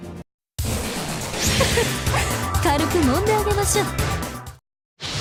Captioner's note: giggle